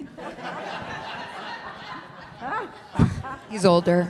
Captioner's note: laughter